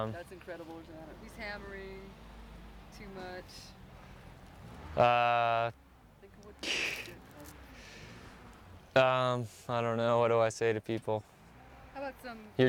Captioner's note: laughs